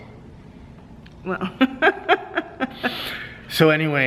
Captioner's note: laughing